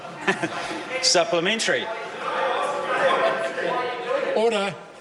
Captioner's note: members talk loudly